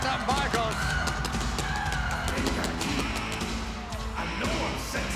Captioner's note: crowd chattering